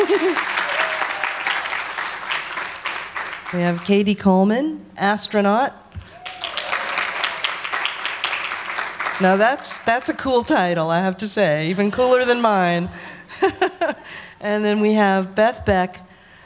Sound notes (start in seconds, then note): 0.0 laughs; 0.0 applause; 6.0 applause; 12.7 laughs